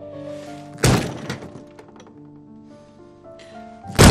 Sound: really loud bang; smaller bang

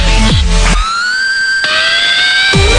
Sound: screech

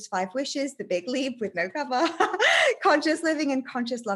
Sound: giggles

